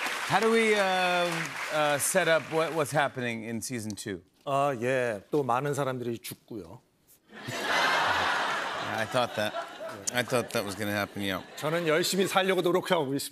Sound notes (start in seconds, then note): 7.3 laughter